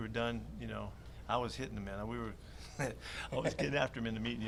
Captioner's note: chuckles